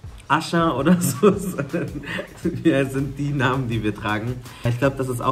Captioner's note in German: lachend